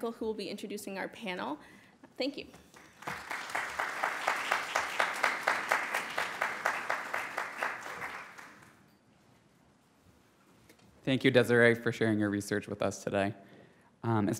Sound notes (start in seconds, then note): 2.7 audience applauds